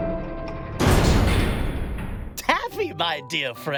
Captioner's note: door clanging